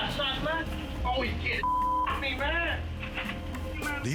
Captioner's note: beep